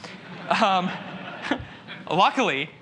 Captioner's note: laughter